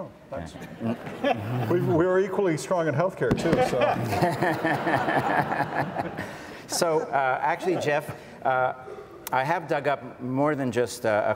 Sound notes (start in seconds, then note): 0.6 audience laughs